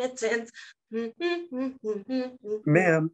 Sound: custodian humming

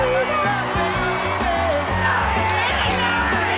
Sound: all cheering

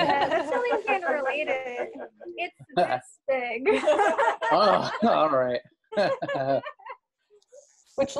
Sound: laughter; more laughter

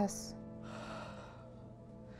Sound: deep sigh

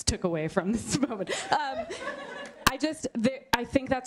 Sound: laughter

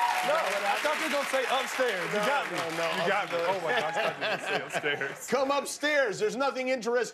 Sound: cheers and applause

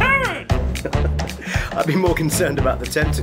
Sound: laughter

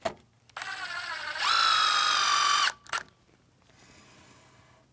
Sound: saw whirring

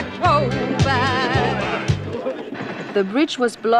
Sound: men shouting in foreign language

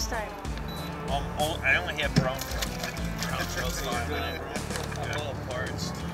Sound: laughing

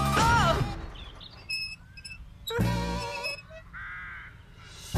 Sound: wheels Squeak

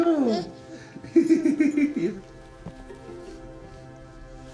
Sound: chuckling

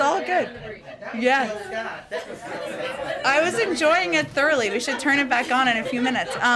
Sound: laughter

